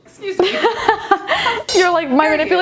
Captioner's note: giggling